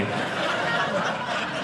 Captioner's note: audience laughing